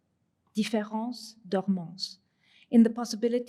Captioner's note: french